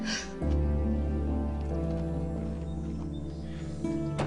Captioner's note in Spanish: Sollozos